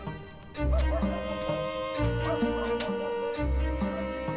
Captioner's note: dog barking